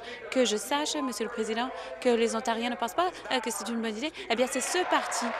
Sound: applause

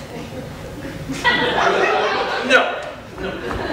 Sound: audience laughter

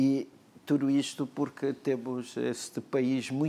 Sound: speaking portuguese

